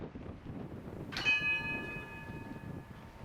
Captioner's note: bell chimes